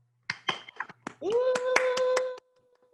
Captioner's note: clapping